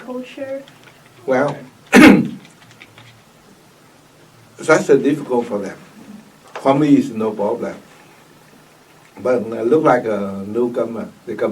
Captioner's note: coughs